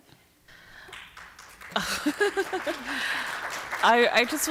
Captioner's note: applause